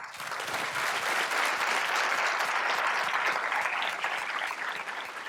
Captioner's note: applause